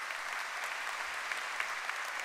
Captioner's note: applause